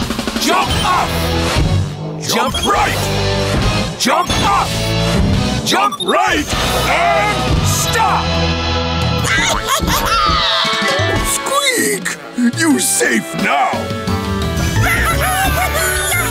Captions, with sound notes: Jump up! Jump right, jump up. Jump right and stop! [cheering] Squeak, you safe now. [babies cheering]